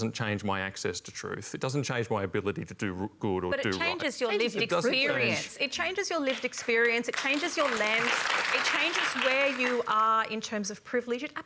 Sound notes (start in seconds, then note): 6.3 applause